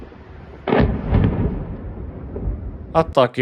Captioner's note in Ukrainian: вибух